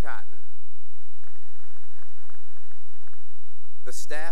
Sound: applause

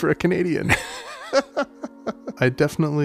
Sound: both laughing

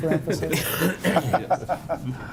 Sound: laughs; coughs

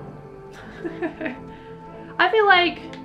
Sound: laughs

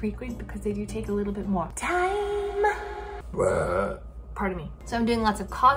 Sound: belches

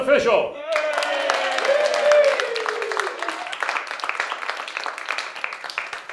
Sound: the crowd applauds

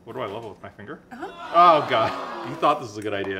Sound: crown boos

